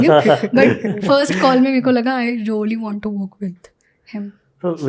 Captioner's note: speaks in Hindi